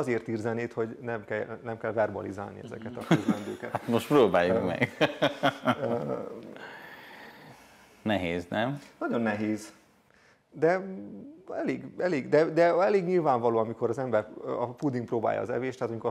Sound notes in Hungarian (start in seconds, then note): 5.7 nevetés hangja